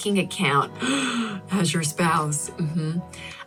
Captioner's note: gasps